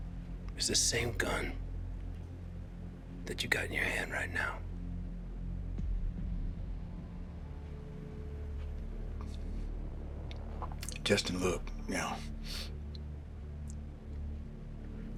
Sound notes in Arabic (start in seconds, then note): 4.9 موسيقى متوترة; 8.5 يبتلع بشدة